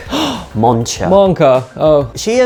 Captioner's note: gasps